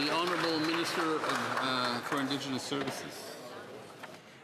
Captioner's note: some Applause